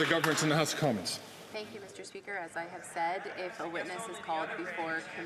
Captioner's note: some Applause